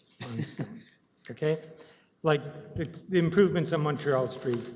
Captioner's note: laughter